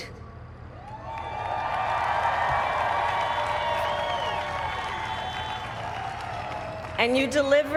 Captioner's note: applaud